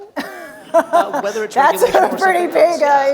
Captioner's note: laughter